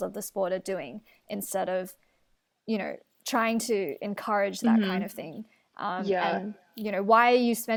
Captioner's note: interjections of agreement